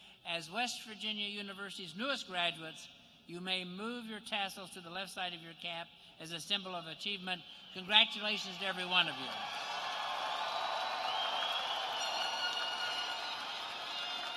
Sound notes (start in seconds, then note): 11.1 cheers and applause